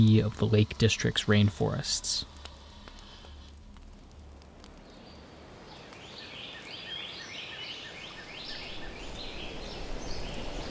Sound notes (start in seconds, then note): 4.7 birds chirping